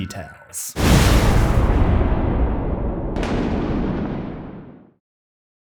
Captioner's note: impact